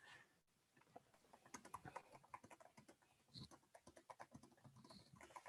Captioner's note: keyboard typing